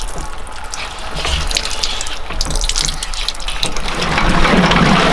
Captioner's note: water dripping